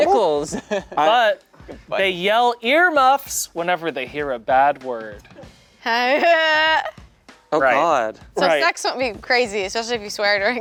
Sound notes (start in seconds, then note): 5.8 laughs